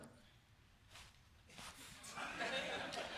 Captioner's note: chuckling